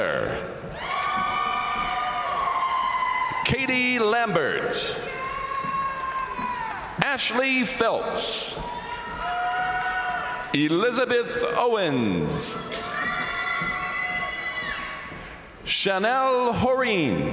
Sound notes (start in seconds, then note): 0.3 crowd cheering; 0.7 crowd applauding; 4.8 crowd cheering; 8.4 crowd cheering; 12.1 crowd cheering